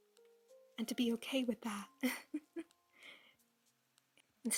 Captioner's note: chuckle